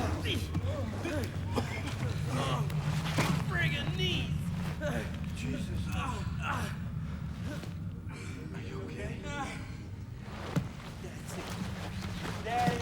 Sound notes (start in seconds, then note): 6.7 Giannelli groans